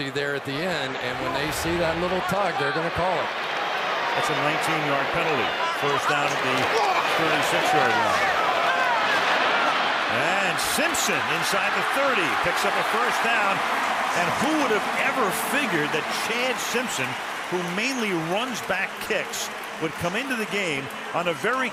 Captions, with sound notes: the jersey there at the end. And when they see that little tug, they're going to call it. That's a 19-yard penalty. First down at the 36-yard line. And Simpson inside the 30 picks up a first down. [cheering] And who would have ever figured that Chad Simpson, who mainly runs back kicks, would come into the game